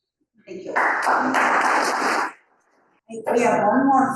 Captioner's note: audience applauding